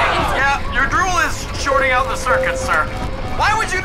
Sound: beeping

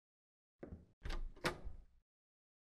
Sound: door opening

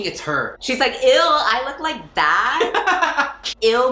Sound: laughs

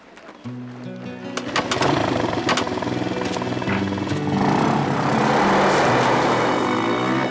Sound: slow music; motorcycle starting up

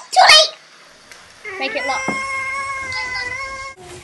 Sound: baby noise

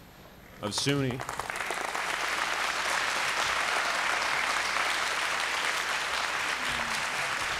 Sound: applause

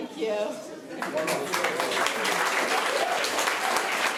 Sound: applause

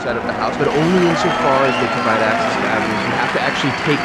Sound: voiceover

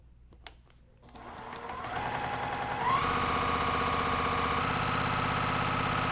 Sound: sewing machine whirring

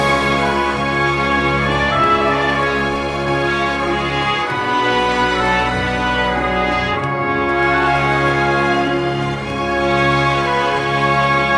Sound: applause

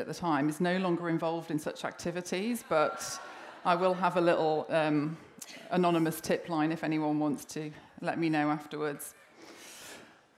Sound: laughter

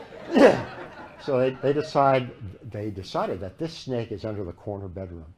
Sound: laughter

